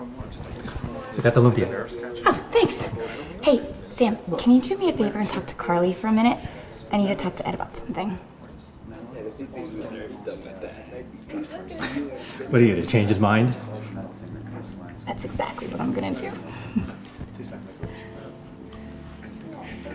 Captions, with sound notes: - Got the lumpia. - Oh, thanks! Hey Sam, can you do me a favor and talk to Carly for a minute? I need to talk to Ed about something. - (laughs) What are you gonna do, change his mind? - That's exactly what I'm gonna do.